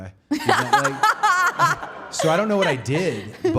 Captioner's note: Liv laughing